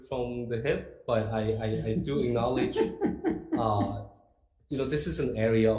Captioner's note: laughs